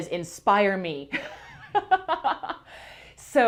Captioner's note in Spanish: risas